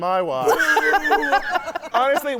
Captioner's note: laughing